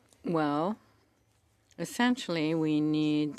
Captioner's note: speaking French